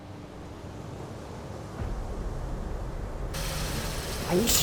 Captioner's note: beach sfx